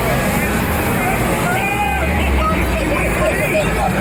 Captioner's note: maniacal laughter from squidward